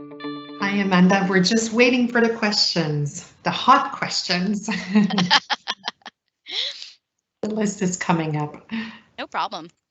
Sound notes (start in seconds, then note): 4.5 laughing